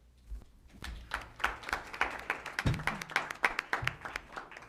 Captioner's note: applause